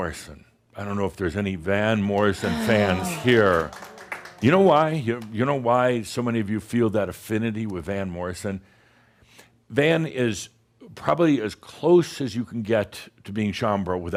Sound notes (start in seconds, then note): 2.1 some claps